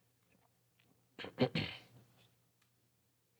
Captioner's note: clears throat